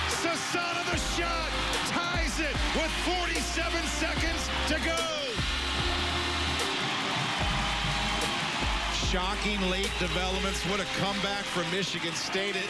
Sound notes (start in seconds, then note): 5.4 horn; 6.6 cheering